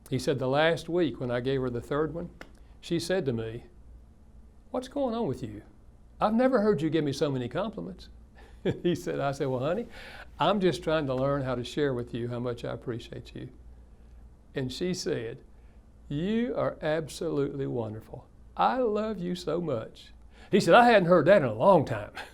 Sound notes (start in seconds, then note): 8.5 laughs